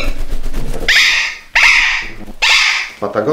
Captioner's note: scream of parrots